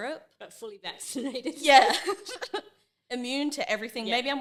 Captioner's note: laughing